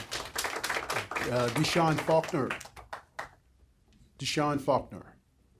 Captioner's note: applause